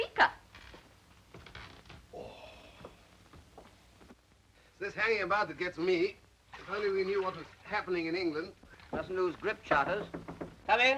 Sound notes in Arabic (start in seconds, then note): 2.1 رودولف يسخر; 9.6 يطرق الباب